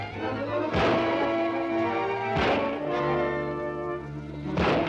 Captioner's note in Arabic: إطلاق نار